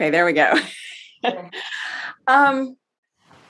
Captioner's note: laughing